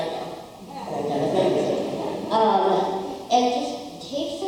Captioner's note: crowd laughing